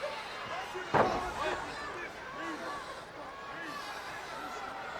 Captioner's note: canvas banging